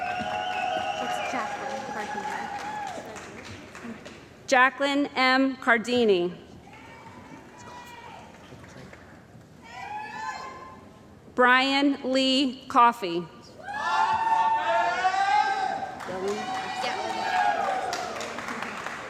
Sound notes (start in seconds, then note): 0.0 cheering & Applause; 7.2 cheering; 13.7 cheering & Applause